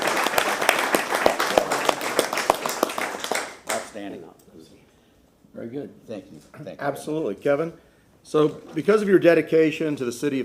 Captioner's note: applause